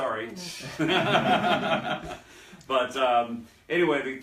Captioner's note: laughter